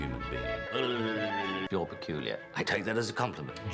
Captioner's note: blubbering